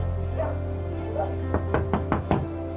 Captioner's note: dog barking; knocking on door